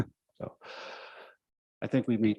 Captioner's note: chuckles